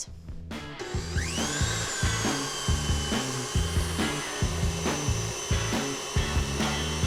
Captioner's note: machine whirring; bright upbeat music